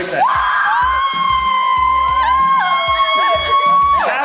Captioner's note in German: Familienjubel